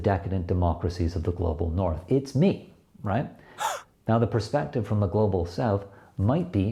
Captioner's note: gasp